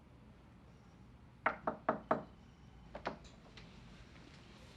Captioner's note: knocks on door